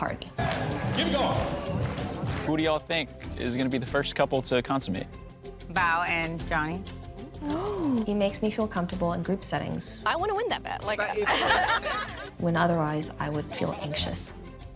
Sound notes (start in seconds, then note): 11.1 laughter